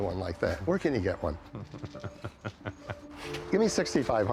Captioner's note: chuckles